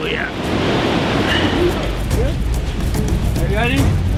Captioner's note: waves rushing; tense music